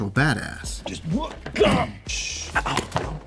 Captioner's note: grunts